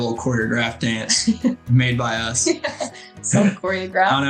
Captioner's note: laughs